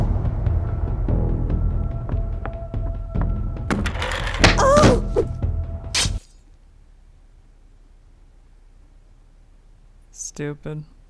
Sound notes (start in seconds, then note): 0.0 suspenseful music; 5.9 cracking smash